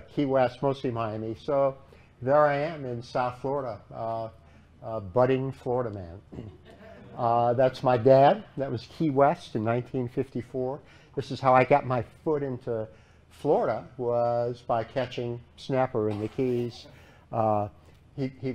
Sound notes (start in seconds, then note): 6.3 laughter